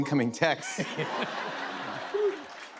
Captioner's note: laughter